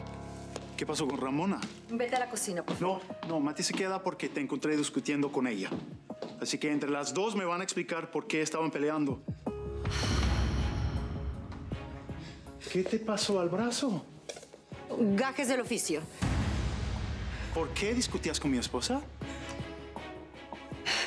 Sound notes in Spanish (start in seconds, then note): 9.8 exhala mati